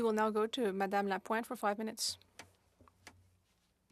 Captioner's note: speaking FRENCH